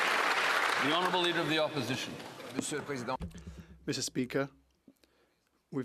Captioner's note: applause